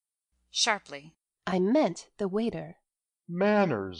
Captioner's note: _sharply_